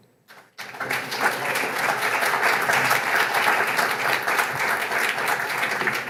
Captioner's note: applause